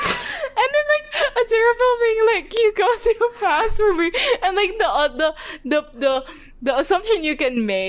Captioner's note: laughing